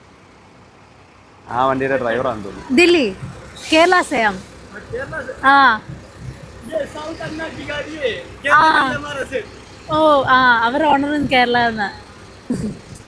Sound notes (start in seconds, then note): 2.8 speaks in Hindi